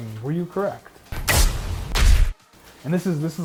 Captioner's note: jets popping; gorilla thuds